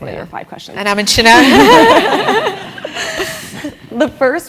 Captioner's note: laugh